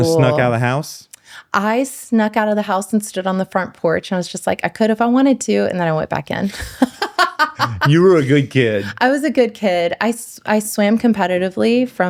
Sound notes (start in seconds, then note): 6.5 laughs